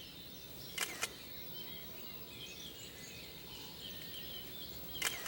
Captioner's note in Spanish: clique do obturador da câmera